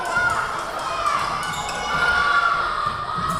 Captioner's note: whistle blowing; yelling